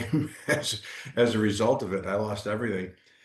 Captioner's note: laughing